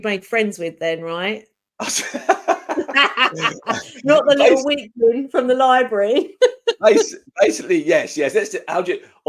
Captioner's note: laughing